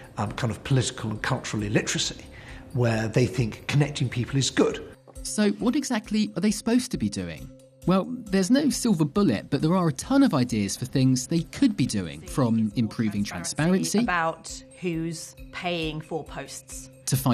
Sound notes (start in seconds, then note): none